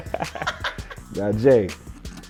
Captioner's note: laughs